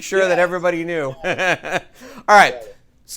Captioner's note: chuckles